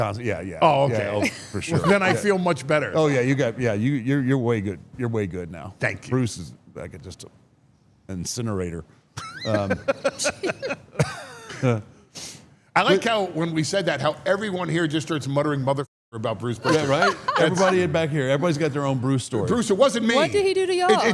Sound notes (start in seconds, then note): 9.2 Paul laughs